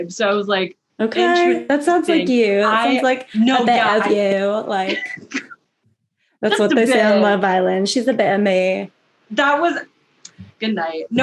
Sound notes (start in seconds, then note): 4.8 laughs; 7.0 fake british accent